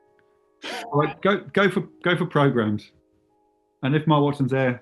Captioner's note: sniggering